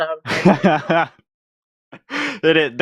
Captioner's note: laughs